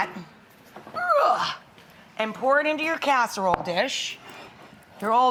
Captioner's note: groans